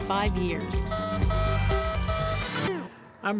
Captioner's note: machines beeping